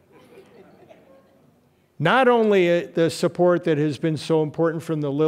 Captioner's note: laughter